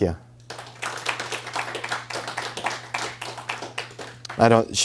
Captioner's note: applause